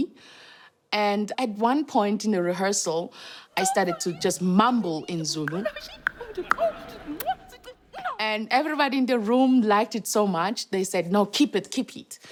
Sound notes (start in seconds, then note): 5.9 mumbling in zulu